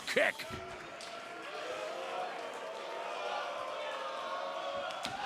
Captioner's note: crowd cheering